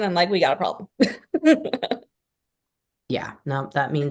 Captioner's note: laughs